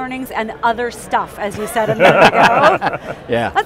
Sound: all laugh

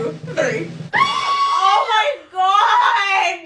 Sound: screaming

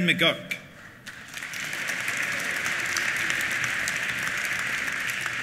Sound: applause

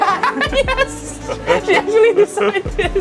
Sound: laughing

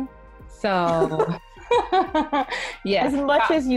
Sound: laughing

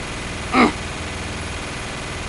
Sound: clears throat

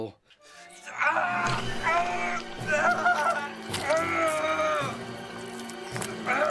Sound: Paul screaming and grunting

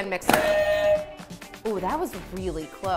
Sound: contestants buzzers ring

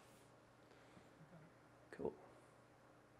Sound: mumbles

